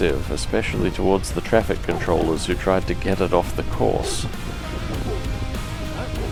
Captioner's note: barking